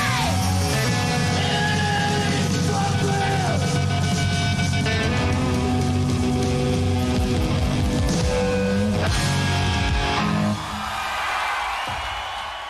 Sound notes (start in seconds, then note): 5.2 band member shouts